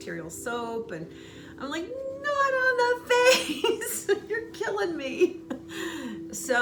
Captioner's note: laughing